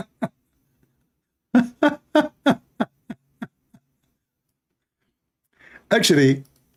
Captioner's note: Ketawa